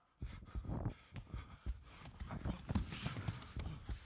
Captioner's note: group panting